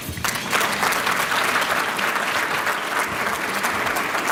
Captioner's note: applause